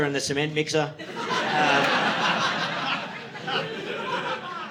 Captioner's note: audience laughing